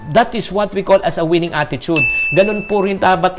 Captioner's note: chime